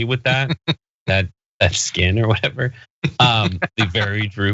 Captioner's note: laugh